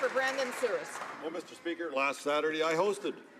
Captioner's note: some Applause